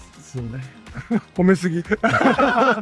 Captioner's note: speaking in Japanese; group laughing